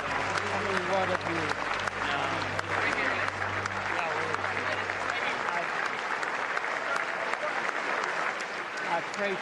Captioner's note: applause